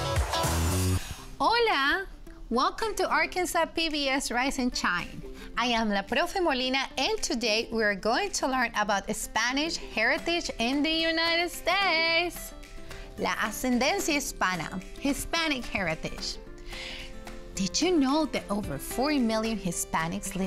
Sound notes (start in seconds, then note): 13.0 speaks in Spanish